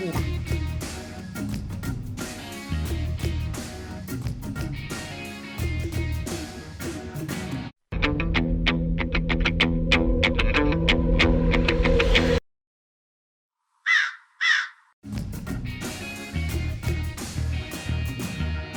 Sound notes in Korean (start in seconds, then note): 13.8 까마귀 소리